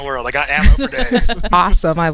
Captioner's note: laughs